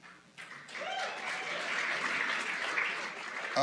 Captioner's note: applause